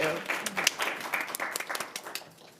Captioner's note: attendees and panelists applauding